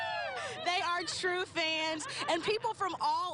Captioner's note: cheers